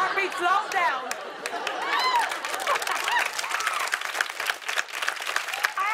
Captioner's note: cheers and applause